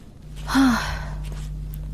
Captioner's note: sighs